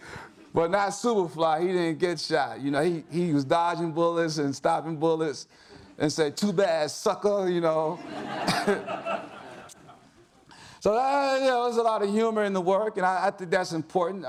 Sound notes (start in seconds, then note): 7.9 audience laughs